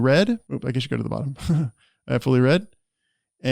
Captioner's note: chuckles